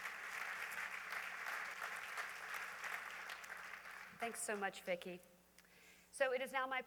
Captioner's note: applause continues